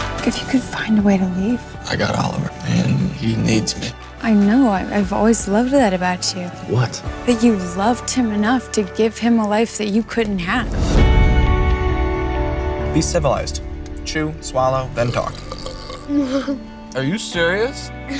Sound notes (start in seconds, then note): 14.9 burps